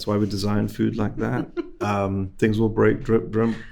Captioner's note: host laughing